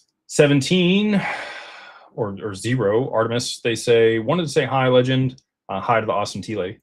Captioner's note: sighs